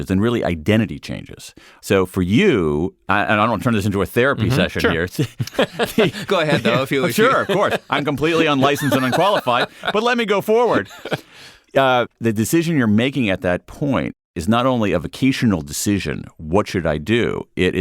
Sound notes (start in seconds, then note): 5.3 laughing; 10.4 laughing